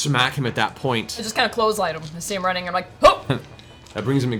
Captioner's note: grunts